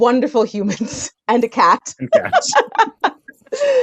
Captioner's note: laughs